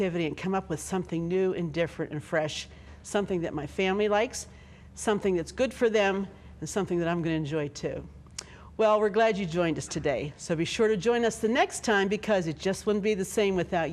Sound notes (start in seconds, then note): none